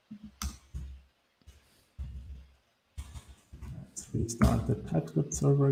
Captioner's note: mouse clicking